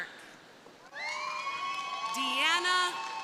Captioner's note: crowd cheering